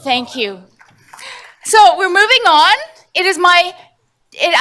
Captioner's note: none